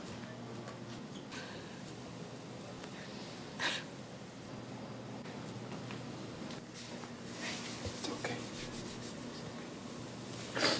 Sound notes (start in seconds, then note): 2.9 sobs